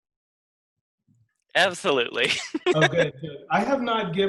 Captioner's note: laughing